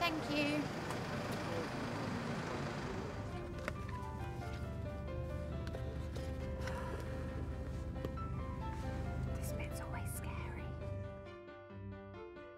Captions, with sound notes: Thank you. [car engine running] [exhales heavily] This bit's always scary.